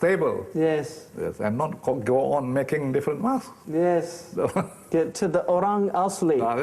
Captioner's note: laughing